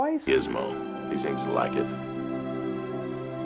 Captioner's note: male Voice